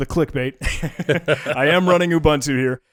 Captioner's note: both laughing